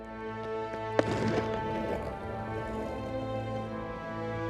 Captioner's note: skateboard rolling